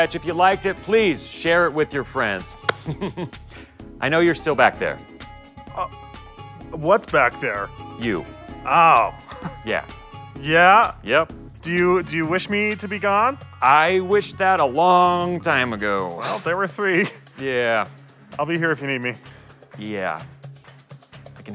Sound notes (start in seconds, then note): 2.7 chuckles; 9.2 chuckles